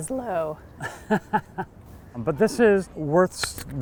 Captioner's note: laughing